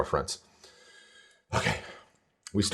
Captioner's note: takes deep breath